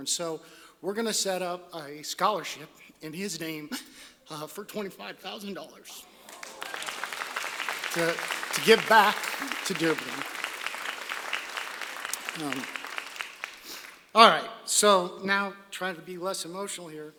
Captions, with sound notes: So we're going to set up a scholarship in his name for $25,000. [ Applause ] To give back to Dearborn. [ Applause ] All right, so now trying to be less emotional here.